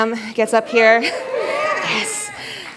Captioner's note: cheers